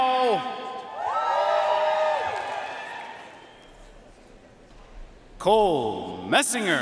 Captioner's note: audience cheering and applauding